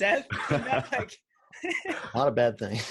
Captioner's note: everyone laughs